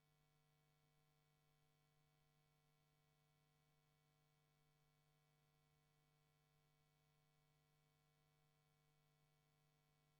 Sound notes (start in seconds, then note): none